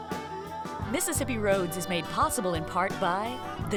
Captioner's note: voiceover